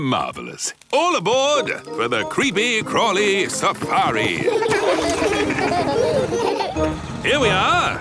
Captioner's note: laughing